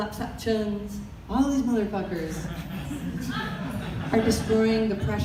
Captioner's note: audience laughter